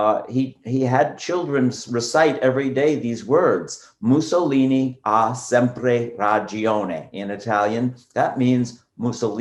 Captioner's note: speaking Italian